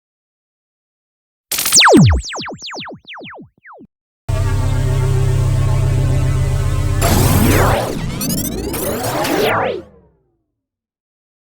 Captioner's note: sound Effects